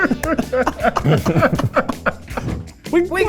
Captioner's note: all laughing